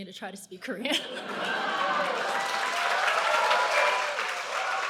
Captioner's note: cheering